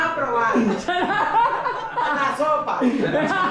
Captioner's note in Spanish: Risas; Carcajadas